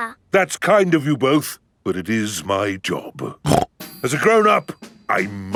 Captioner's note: snorts